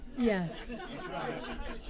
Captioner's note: laughter